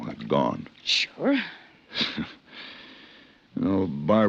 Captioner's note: chuckles